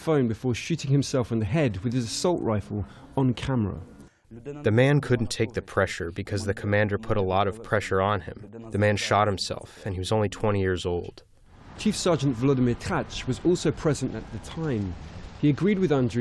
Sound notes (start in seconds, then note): 4.4 through translator